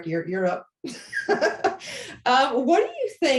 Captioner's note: laughter